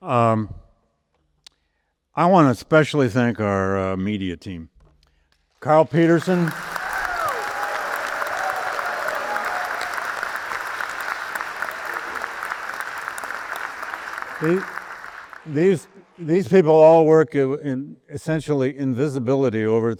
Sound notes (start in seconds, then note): 7.4 audience applauds